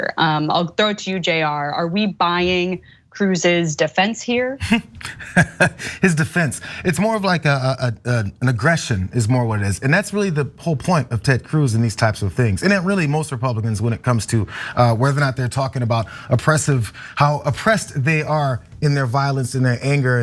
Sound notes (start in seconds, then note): 4.6 laugh